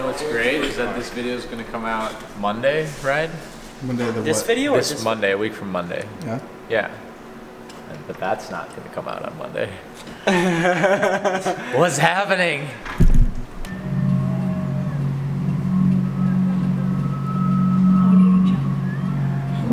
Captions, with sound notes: You know what's great? This video is going to come out Monday right? Monday of the what? This Monday, week from Monday Yeah, Yeah But that's not gonna come out on Monday (Laughter) What's happening